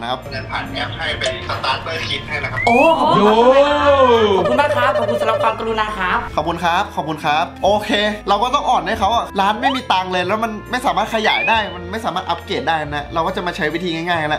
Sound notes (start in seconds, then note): 2.7 cheering